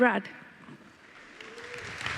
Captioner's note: applause